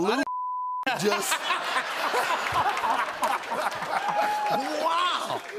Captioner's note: laughter